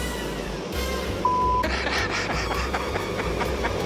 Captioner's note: laughs